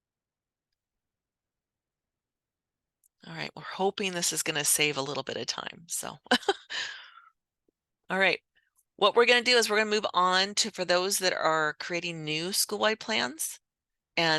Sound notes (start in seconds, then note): 6.3 chuckles